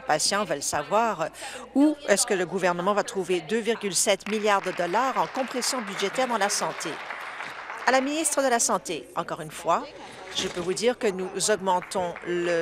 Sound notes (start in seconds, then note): 8.1 applause